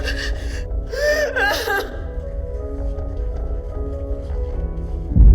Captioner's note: person gasping